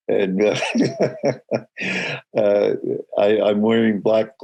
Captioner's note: laughing